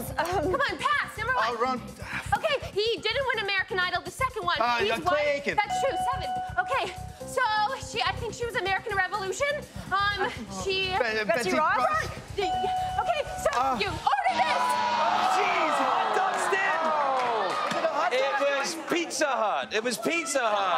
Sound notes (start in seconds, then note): 14.2 audience groans